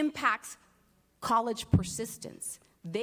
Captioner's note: Spanish